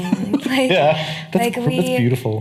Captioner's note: laughing